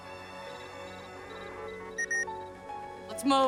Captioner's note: beeps